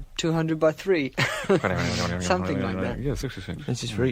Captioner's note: laughter